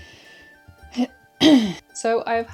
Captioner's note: coughs in exasperation